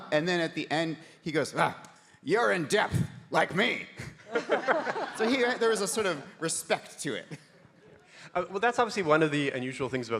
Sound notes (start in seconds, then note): 4.2 audience laughing